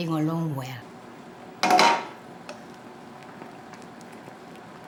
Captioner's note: sauce bubbling